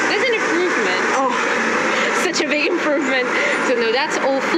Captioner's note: laugh